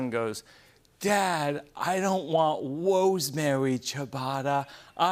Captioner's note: Childish voice